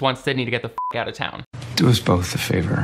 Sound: beep

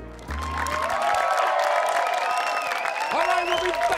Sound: audience applauding

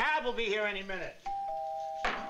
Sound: doorbell rings

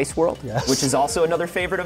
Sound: laughs

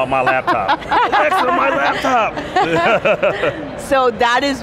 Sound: laughing

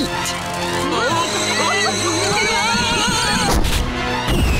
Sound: screaming

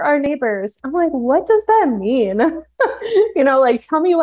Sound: laughs

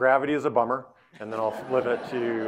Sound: audience laughing

